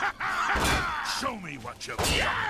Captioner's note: soldiers laughing